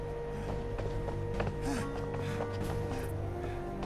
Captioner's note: Ryder huffing